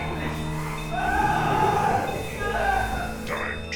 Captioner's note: victim screaming